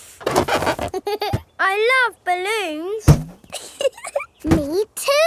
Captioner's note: chuckles; chuckles